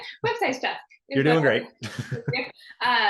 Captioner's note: laughing